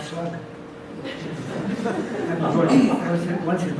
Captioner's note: audience laughs